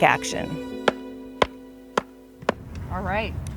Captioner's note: mallet whacking